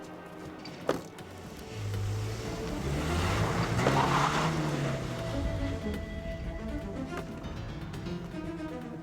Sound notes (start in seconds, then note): 1.0 engine rumbling; 3.9 tires screech; 6.2 tense music